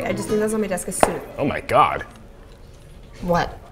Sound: book slams shut, music stops

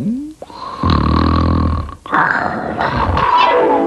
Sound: snoring

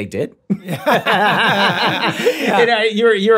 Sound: all laughing excitedly

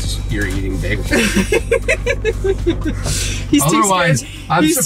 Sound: laughs

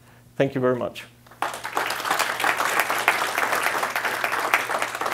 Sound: applause

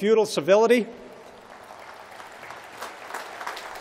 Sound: applause

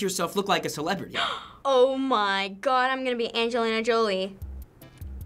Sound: gasping

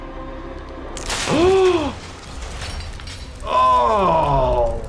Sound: intense instrumental music; person gasps

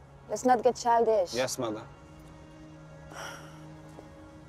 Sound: sighing

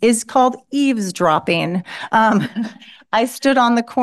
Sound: laughter

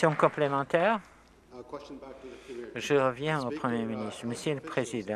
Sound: applause

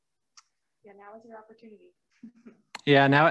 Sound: chuckles

